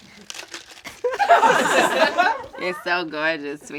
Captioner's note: all laugh